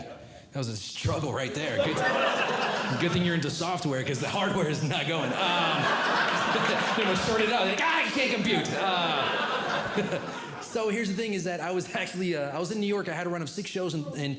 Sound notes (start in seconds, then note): 4.8 audience Laughing; 8.0 audience Laughing